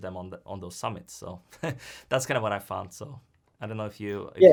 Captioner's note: chuckles